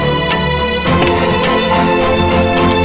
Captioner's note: Car door opens